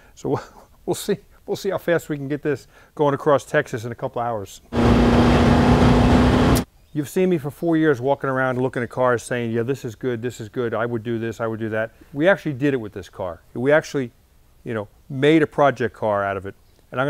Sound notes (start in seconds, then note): 0.3 chuckles; 4.7 engine revs